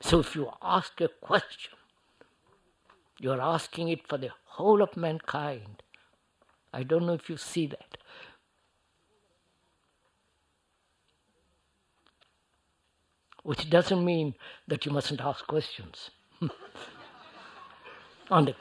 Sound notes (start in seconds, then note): 16.3 laughter